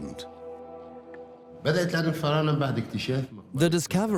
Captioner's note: Arabic dubbed in English